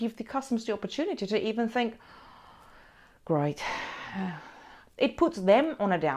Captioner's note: sighs